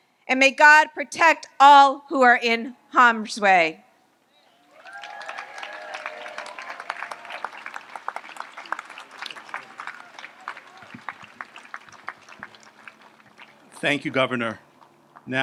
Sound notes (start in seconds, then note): 4.6 audience applauds